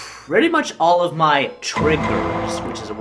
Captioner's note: Law and Order DUN-DUN sound effect